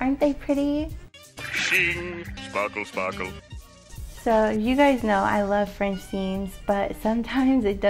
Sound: Plankton voice

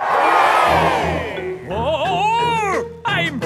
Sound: crowd cheers

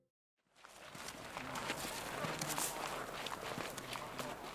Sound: multiple footstep

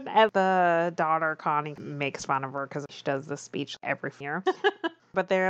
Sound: laughs

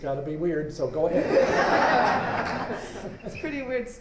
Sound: laughter

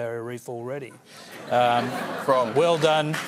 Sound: laughter

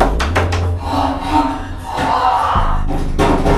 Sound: desperate breathing; furious growling noises

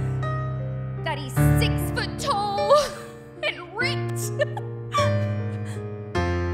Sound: giggles

